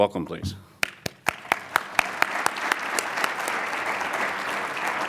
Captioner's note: audience applauds